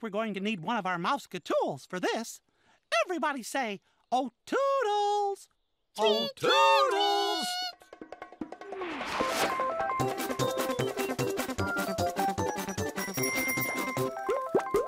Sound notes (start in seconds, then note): 11.0 whoosh